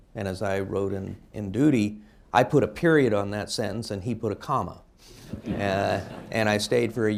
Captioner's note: laughter